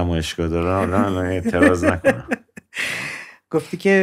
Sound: laughter

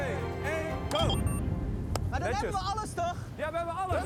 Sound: beep

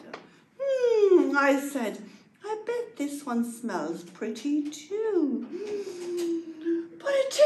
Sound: deep inhale of breath

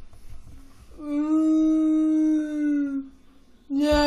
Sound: crying sound

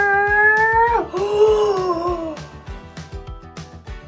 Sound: gasping

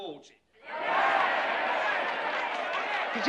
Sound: cheering and chattering

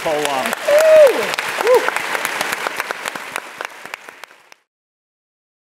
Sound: audience applauding

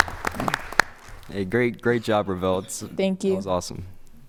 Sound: applause

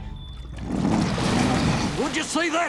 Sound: growling

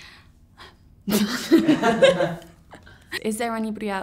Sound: laughs

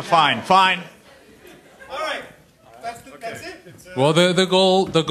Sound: voiceover

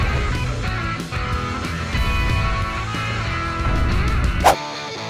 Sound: upbeat music; footsteps thudding

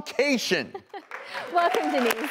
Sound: laughing

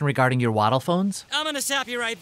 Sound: waves crashing and seagulls calling

